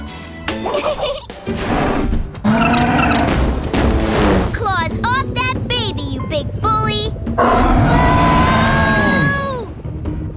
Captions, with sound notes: [giggling] Claws off that baby, you big bully. [roaring] Whoa!